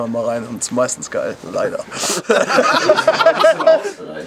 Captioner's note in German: lacht